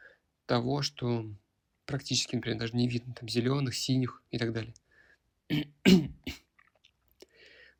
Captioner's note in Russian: откашливается